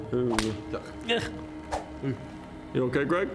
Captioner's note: pow!; swish